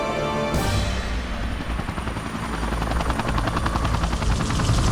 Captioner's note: helicopter whirring